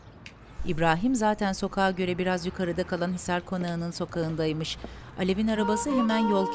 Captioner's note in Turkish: Kuş cıvıltısı sesi